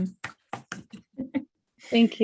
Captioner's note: clapping